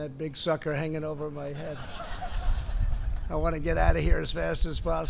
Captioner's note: laughter